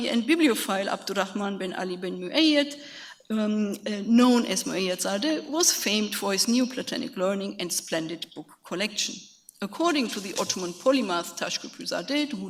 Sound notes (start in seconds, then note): 10.5 speaks in a foreign language